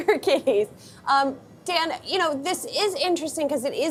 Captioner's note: laughter